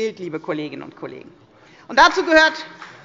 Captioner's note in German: Beifall bei der FDP